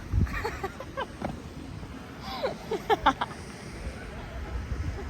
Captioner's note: laughs